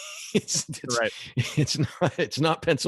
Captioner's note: laughs